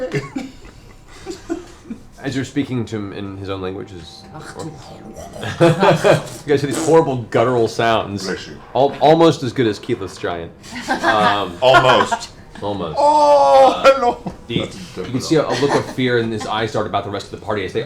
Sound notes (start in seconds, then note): 4.8 speaks Orcish; 10.6 laughs